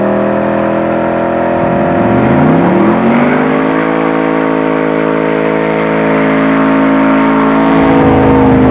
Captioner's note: engine roaring